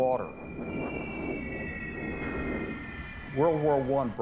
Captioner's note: bombs whistle